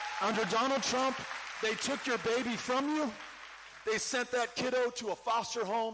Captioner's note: cheering